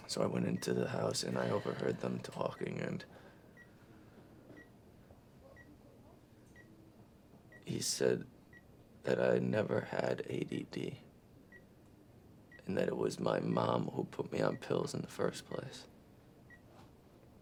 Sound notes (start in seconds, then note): 3.5 monitors beeping